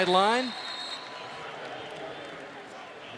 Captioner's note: whistle; pa announcement